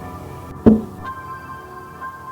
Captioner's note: tapping